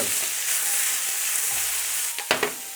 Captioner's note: sizzling sound